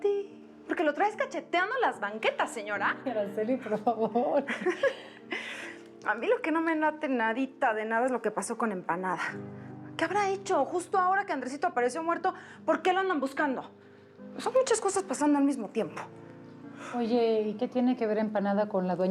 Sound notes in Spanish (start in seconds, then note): 5.9 risas